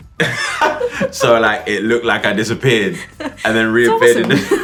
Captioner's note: laughs